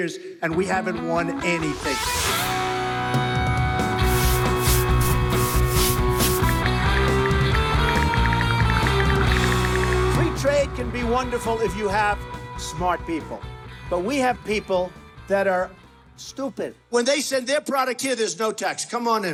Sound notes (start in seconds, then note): 3.2 rock music; 4.0 brush scraping; 6.9 ticking